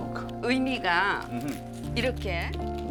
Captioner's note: speaking Korean